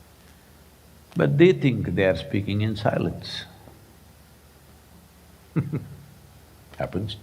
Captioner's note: laughs